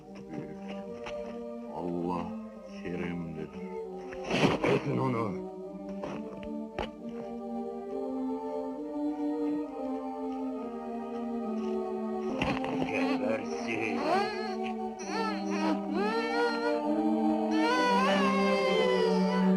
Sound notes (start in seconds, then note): 12.8 Bilal whimpering; 17.5 Bilal screaming